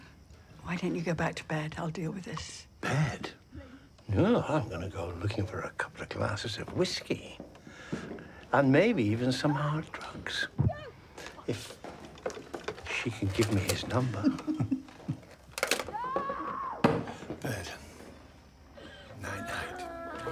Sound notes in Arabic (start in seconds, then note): 14.0 تصرخ آنا